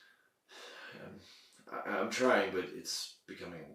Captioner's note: sighs